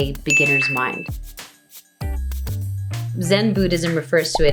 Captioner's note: ding